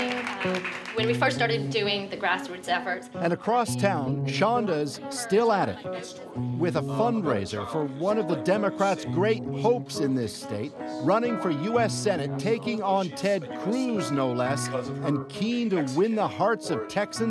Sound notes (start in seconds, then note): 2.0 applause